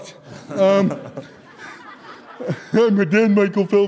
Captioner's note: audience Laughter